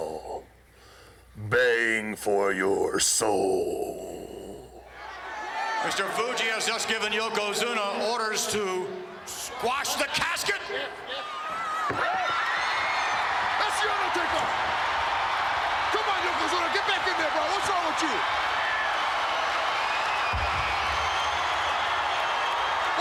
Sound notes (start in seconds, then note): 11.4 applause; 18.7 applause